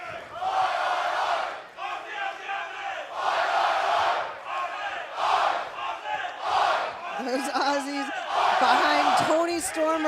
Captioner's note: fans chanting